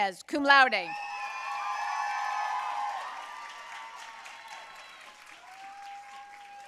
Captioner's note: audience cheering and applauding